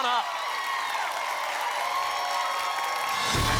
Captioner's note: applause and cheering